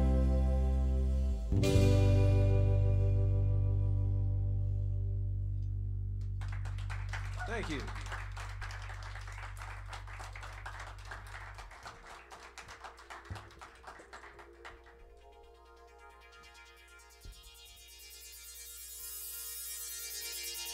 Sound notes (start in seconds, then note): 2.3 ending notes fade; 5.0 cheers and applause; 8.4 applause; 17.4 high pitched electronic sound